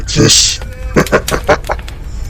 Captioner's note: laughter